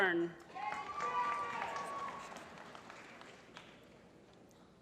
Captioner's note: applause